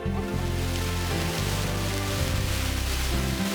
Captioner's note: laughing; sizzling